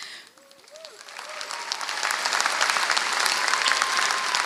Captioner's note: applause